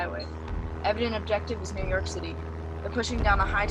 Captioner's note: distant giant footsteps growing louder; distant alien warhorn